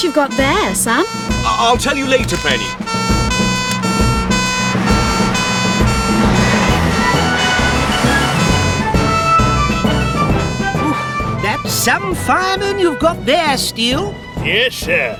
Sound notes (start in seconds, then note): 3.9 heroic Music; 3.9 siren Blares